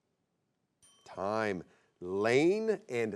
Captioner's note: bell chimes